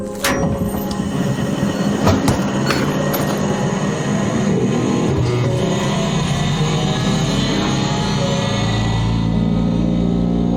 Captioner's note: robot starts up